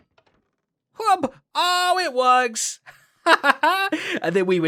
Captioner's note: laughs